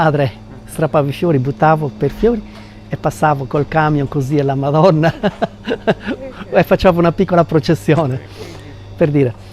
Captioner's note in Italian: risate